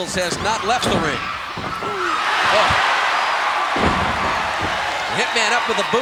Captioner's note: audience cheering